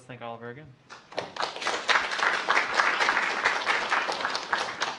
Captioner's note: applause